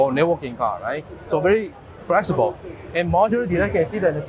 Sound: conference chatter continues

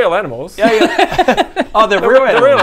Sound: laughs at animal cruelty

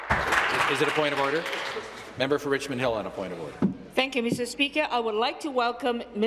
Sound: applause

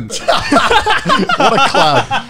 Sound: everyone laughs

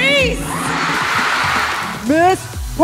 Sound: crowd cheering

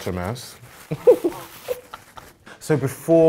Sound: chuckles

